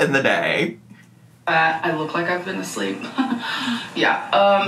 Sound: chuckles

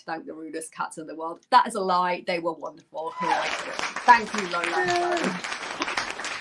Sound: applause

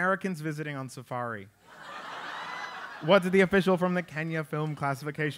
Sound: laugh

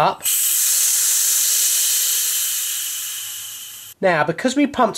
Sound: air running

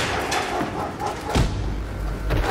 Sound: dog barking; elbow thuds

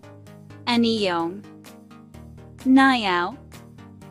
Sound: Turkish; Korean

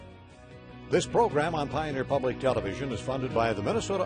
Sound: voiceover

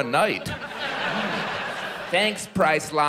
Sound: audience laughs

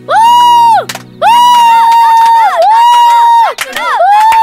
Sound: Thakkudu howling

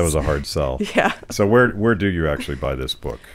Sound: laughs

